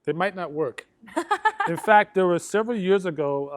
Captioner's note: laughs